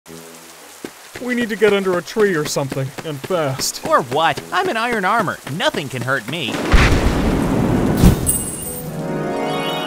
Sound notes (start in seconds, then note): 6.4 thunder cracks; 8.3 chimes shimmer